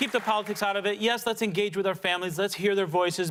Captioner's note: applause